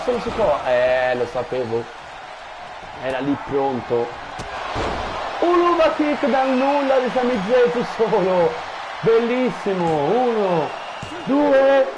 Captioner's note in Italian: Applauso